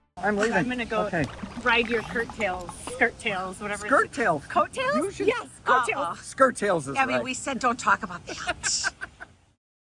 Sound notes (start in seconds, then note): 8.3 laughing